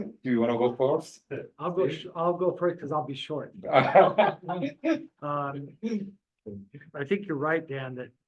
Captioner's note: room laughs